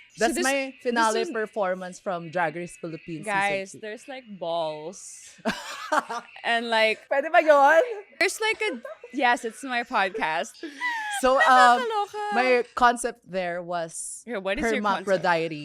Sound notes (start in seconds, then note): 0.0 laughs; 5.4 laughs